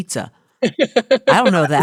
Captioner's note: laughing